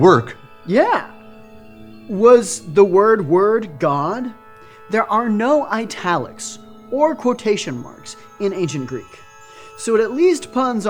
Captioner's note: chuckling